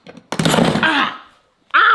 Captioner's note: metal thumping